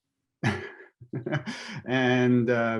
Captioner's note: chuckling